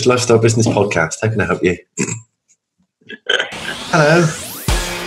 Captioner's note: laughs